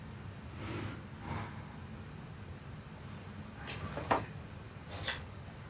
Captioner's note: Gina deeply breathes